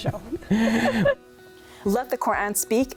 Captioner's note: both laugh